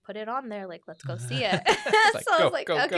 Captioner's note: both laugh